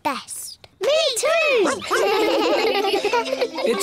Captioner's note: giggle